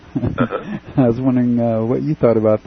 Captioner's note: laughter